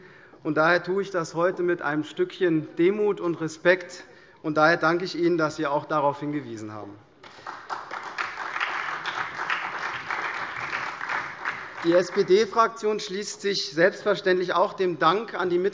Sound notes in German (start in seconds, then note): 7.2 Beifall SPD und CDU